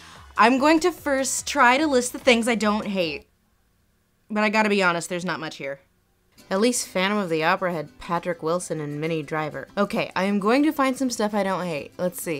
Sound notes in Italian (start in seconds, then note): 6.7 voce fuori campo